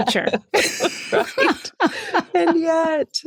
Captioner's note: laughter